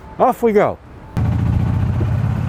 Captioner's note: engine revs